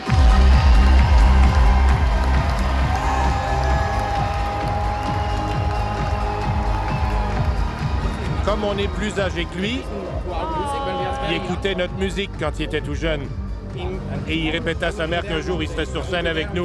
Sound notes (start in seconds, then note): 0.1 techno music; 3.0 applause; 3.0 cheering